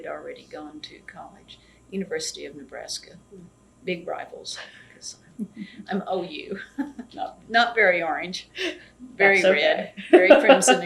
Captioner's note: laughs; laughs